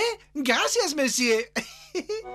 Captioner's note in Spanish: ríe